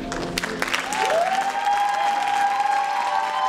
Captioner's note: applause